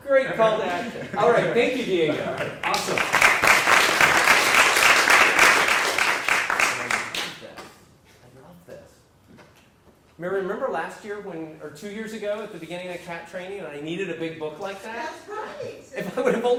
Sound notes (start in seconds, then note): 0.3 laugh; 6.2 applause